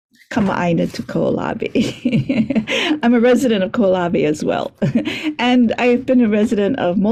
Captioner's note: laughs